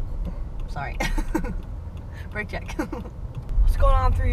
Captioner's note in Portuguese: risos